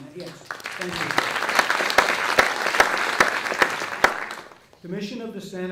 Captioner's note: audience clapping